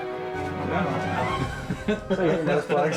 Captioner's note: men laughing